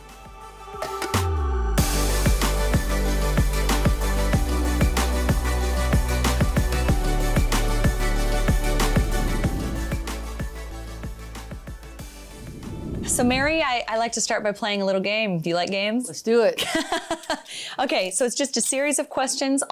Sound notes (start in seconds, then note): 0.0 gentle upbeat music; 16.5 laughs